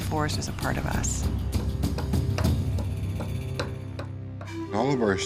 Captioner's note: hammering